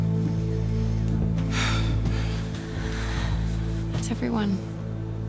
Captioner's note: exhale